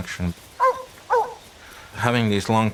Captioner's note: dog barking